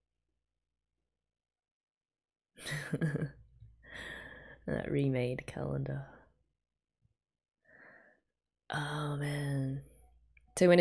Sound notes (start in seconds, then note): 2.6 chuckles